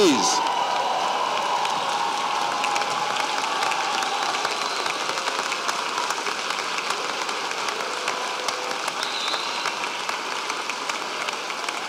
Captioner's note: applause